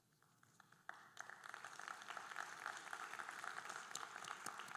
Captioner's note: audience applauding